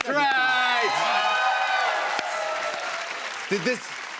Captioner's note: cheers and applause